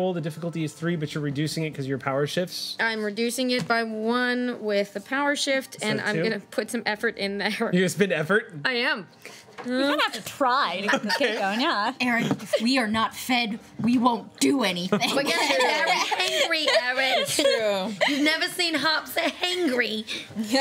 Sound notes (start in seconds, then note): 14.9 laughing